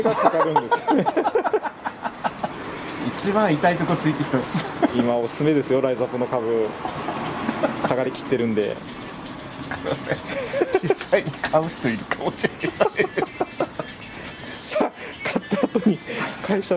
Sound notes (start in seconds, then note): 0.0 laughs; 4.7 laughs